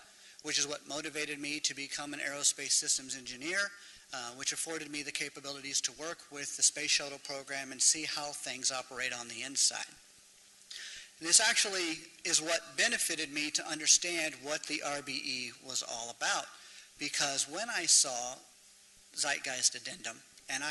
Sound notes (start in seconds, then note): none